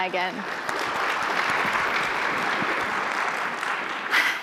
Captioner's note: applause